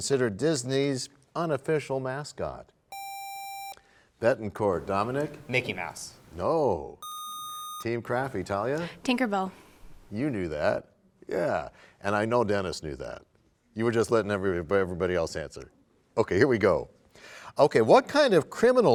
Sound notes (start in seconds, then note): none